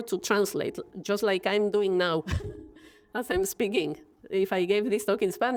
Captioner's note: laughs